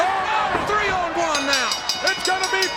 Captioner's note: body thudding